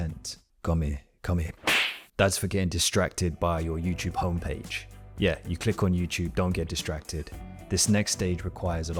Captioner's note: slap